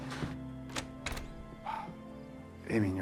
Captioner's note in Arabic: صوت طرق الباب